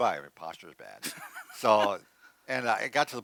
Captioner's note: laughs